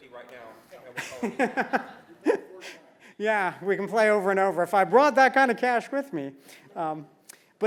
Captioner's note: laugh